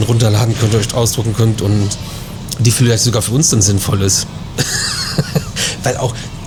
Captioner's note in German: gelächter